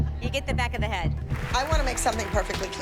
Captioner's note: applause